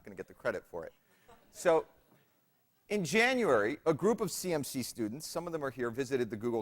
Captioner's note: laughter